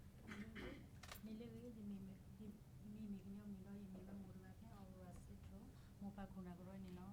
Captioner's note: speaking in foreign language